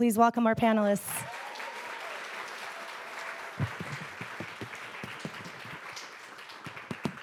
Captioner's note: audience applauding; audience cheering